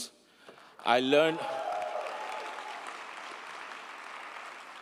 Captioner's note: crowd cheering